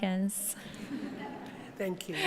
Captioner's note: audience members laughing